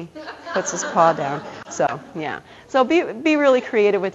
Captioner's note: audience laughter